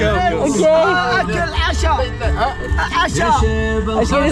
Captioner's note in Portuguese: falatório; em árabe